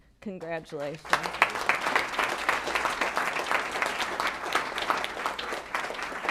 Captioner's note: applause